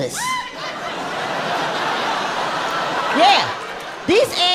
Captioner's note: audience laughing